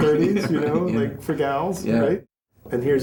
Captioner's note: laughs